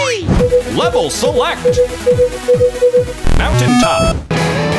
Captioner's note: beeping